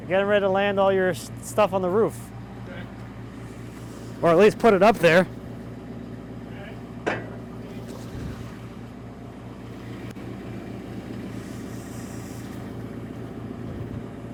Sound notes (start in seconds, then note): 7.1 fork clanking